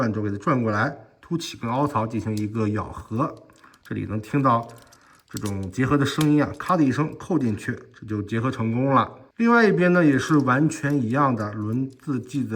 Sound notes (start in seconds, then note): 5.2 click